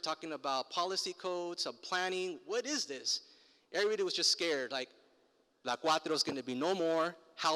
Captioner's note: foreign language